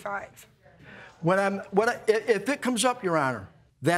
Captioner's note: stammering